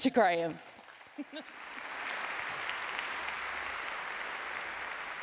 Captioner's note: audience applauds